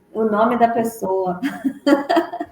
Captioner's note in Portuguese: risos